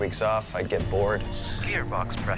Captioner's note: beeping